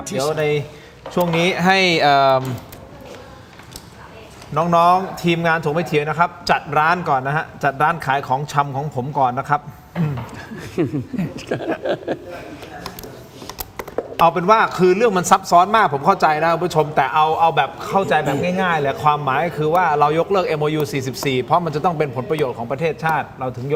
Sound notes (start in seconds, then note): 10.0 laughs